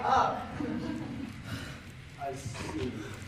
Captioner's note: another sigh; sobbing squeakily